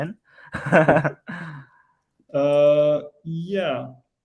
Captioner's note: laughs